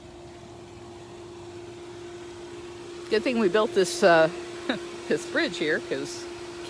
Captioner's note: pump Noise